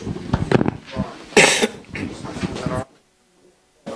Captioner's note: applause